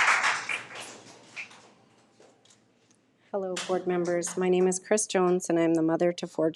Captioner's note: audience applauding